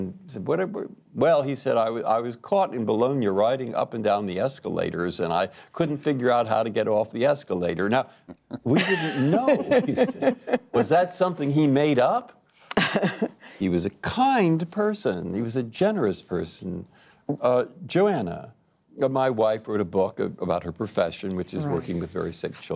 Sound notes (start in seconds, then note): 8.2 laughter; 12.7 laughter